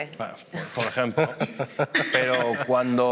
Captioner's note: laughs